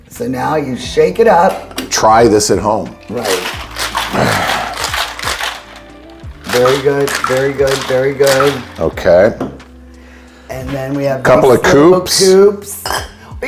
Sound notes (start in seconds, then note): 3.0 ice clattering; 3.1 liquid sloshing